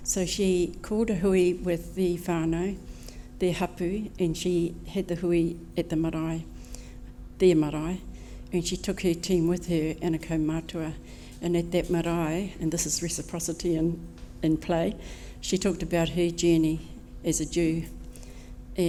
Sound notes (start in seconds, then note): 6.2 speaking maori